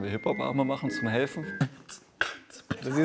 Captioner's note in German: Er beatboxt